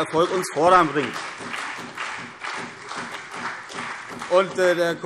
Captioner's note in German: Beifall CDU und BÜNDNIS 90/DIE GRÜNEN